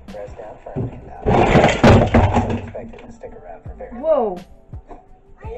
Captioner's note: crash